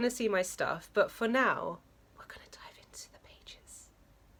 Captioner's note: whispers for no reason